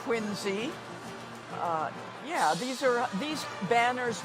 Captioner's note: none